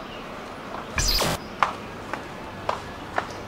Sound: birds chirping

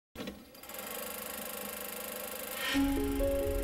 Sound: film projectors rolling; inspiring music plays

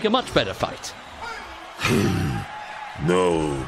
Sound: snort

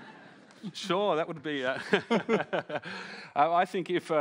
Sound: laughs

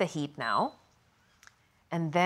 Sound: stove beeps

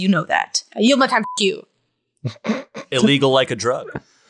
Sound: beep

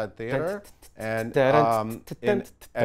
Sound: Jonathan sings beats

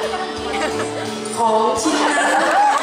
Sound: laught & Applaud

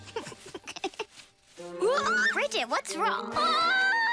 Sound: chuckling; shrieks

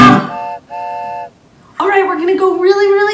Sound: train honks

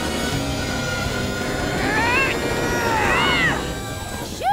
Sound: grunting

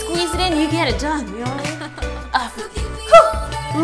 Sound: laughter

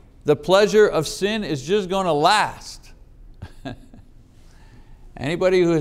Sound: chuckling

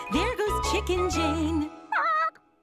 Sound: squawks sadly

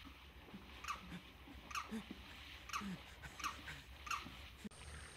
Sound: panting

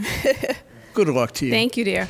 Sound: laughs

